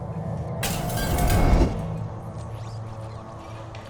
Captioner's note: whispered; distant glass breaking